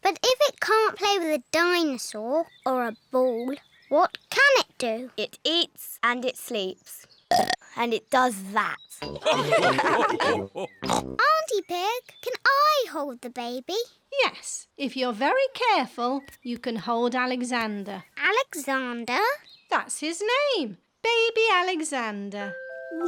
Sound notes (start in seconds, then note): 7.3 burps; 9.1 all laugh